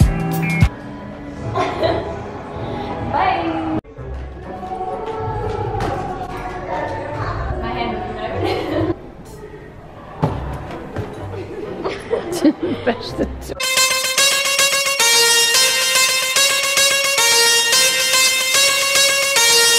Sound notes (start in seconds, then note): 1.6 laughs; 11.8 laughs; 13.6 upbeat pop music